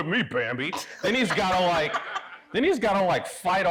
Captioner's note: audience laughing